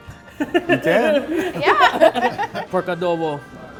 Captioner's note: laughing